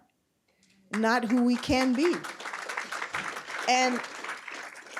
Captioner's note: applause